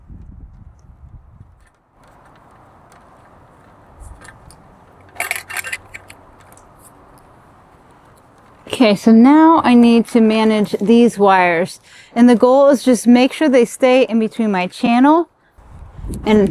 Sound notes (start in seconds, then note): 4.0 metal clanking